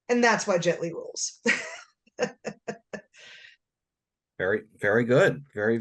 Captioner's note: laughter